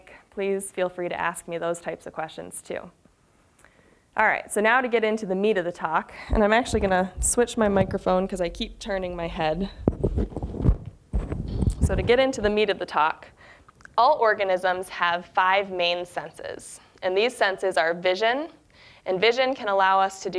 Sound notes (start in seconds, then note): 10.3 muffled rustling